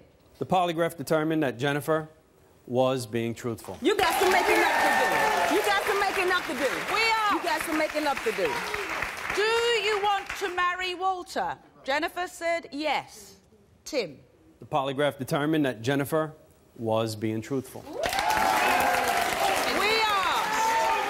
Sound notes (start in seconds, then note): 18.0 applause